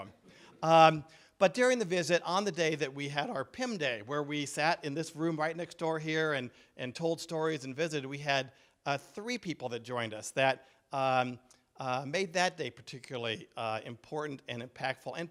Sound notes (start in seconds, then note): none